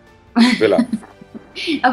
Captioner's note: laughing